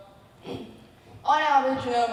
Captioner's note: clears throat